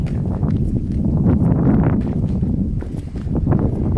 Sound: wind blowing

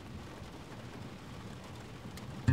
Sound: raindrops

